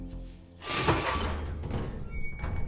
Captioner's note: gate opens